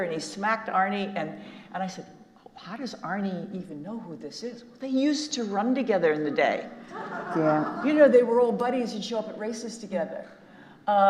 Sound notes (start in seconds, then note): 6.9 audience laughing